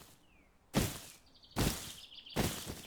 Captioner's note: footsteps